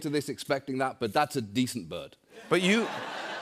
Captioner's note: laughter